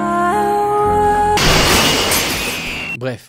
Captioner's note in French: ♫ Musique émouvante ♫; bruits horribles de cris et débris